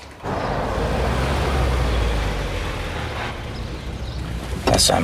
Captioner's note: vehicle engine revving